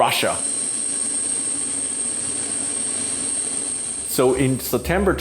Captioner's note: plane engine roaring